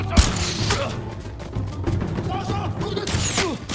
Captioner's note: thunder rumbling